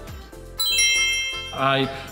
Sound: chimes tinkling

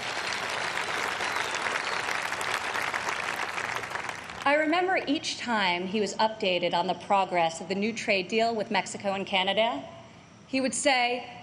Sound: applause

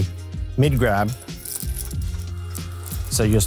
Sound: clinking

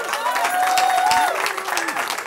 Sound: cheering

